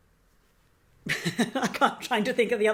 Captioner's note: laughing